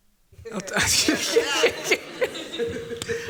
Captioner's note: laughter